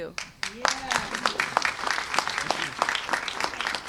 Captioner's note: cheers and applause